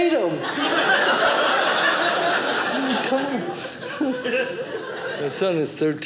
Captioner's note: audience laughing